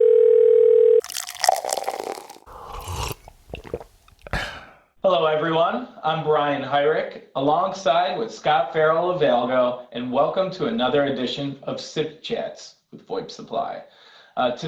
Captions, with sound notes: (phone ringing) (sound of coffee pouring, sip and swallow) - Hello everyone. I'm Brian Hyrek, alongside with Scott Farrell of Algo and welcome to another edition of SIP Chats with VoIP Supply.